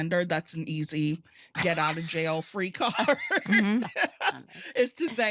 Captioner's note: laughter